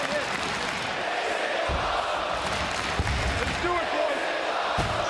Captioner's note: crowd chant "This Is Awesome"